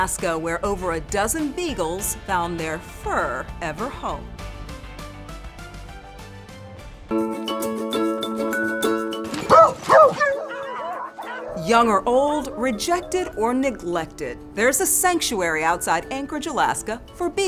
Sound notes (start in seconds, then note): 6.7 light music; 9.4 dogs barking